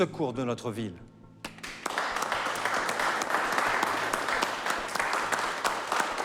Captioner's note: applause